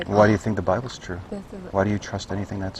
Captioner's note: laughs